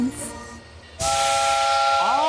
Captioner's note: toot